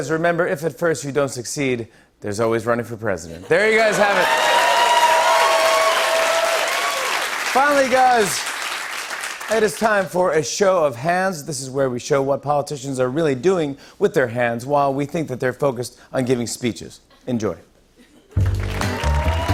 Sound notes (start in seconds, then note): 3.8 cheers and applause; 18.3 cheers and applause